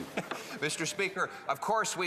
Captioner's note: laughter